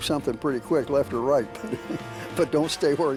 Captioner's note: chuckles